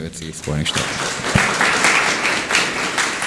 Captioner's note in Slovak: aplauz